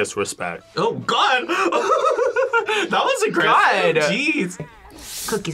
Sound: laughs

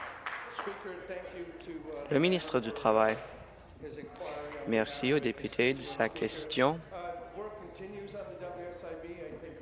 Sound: applause

